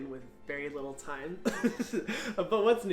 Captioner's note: chuckles